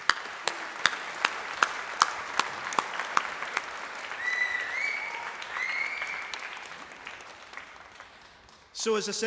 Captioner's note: applause